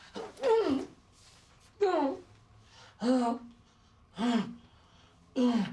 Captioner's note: Rene groans and breathes sharply